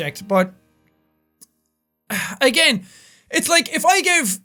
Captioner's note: tch; sighs